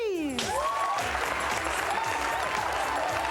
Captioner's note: audience Cheering